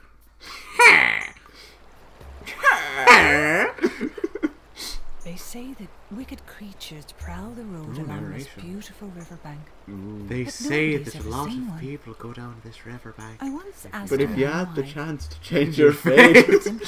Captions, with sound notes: heh! cheh cheaahh!! cheh Ooo narration *mimicing voice* They say a lot of people go down this riverbank But if you had the chance to change your fate